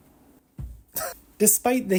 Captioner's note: laughs